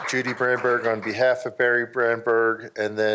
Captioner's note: applause